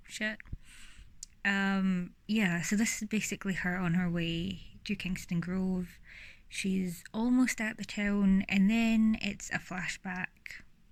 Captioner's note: deep breath